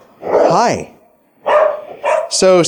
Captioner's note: dogs barking